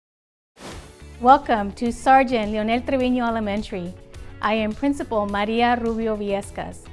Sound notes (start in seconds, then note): 0.6 video whooshing